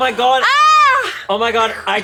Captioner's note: shouting